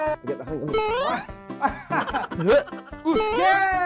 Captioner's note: gasps; laughs